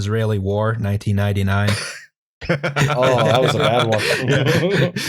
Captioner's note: laughter